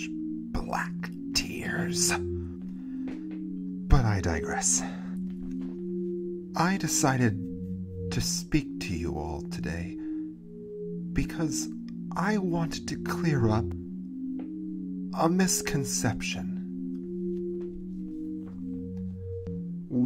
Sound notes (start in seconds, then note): none